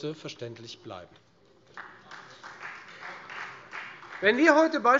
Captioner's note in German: Beifall Freie Demokraten